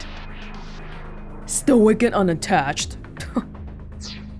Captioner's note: scoffs